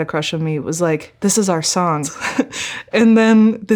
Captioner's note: chuckling